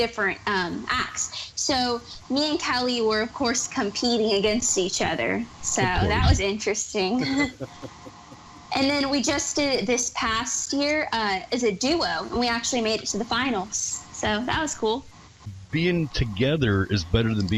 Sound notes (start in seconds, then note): 7.0 laughs